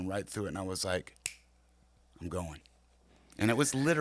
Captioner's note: finger snapping